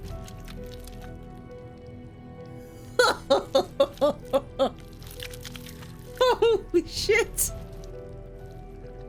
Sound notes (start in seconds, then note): 2.9 laughs